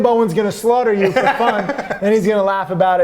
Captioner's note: laughs